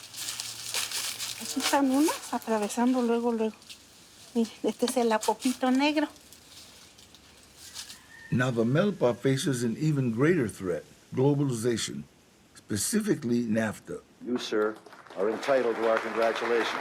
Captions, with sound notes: Here are some, nearly ready to go. This is black sapote. [rooster crows] [narrator in English] Now the milpa faces an even greater threat. Globalization. Specifically, NAFTA… You, sir, are entitled to our congratulations.